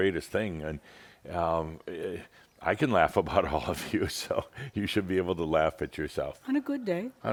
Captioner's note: Adamus chuckles